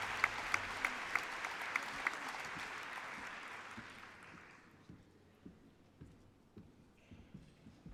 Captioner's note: applause